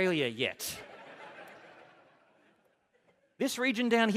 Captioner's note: laughter